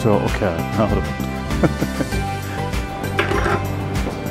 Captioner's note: laughing